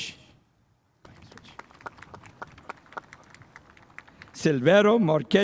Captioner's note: spectators applauding